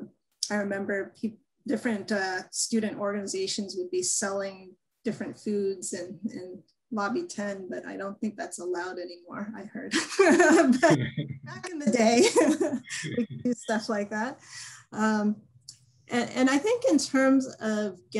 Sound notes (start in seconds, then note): 10.0 laughter